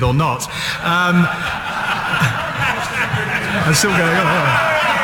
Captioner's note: laughter